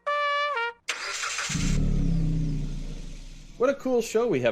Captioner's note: ignition starting